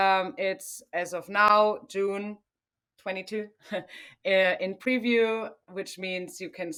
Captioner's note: chuckles